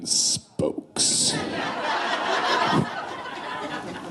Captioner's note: laughing